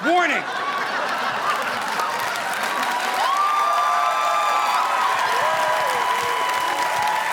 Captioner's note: audience laughing; audience applauding